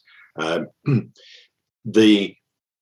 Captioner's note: clears throat